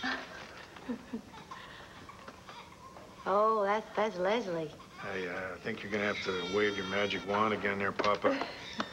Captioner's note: baby cries